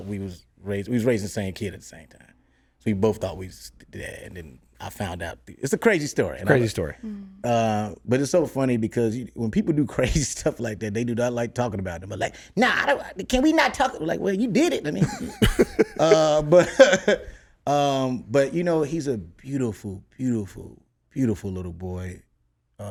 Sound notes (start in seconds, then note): 14.8 laughs